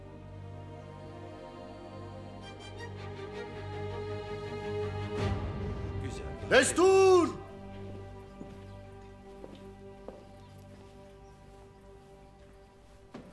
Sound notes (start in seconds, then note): 8.6 footsteps